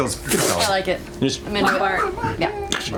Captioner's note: blows